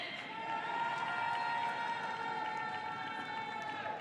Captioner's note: audience cheering